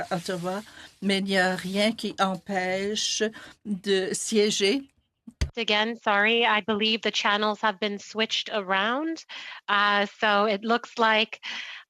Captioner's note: speaking in French